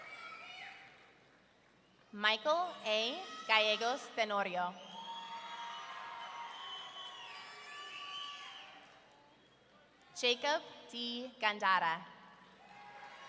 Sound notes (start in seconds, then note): 4.9 audience cheering; 12.6 audience cheering